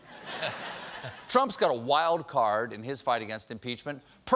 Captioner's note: laughter